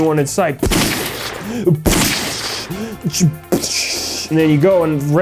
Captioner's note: gun noises from and sound effects